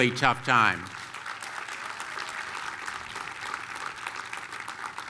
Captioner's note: applause